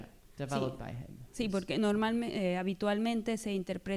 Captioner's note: speaking spanish